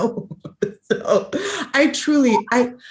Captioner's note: laughs